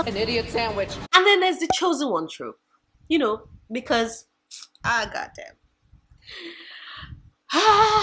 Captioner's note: sigh